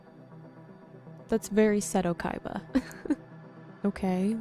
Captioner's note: chuckles